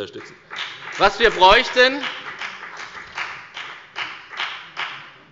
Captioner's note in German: Beifall bei der FDP